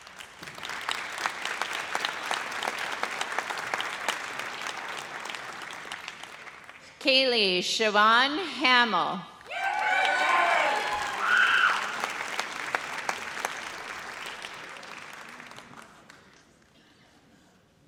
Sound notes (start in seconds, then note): 0.0 audience applauds; 9.4 audience cheers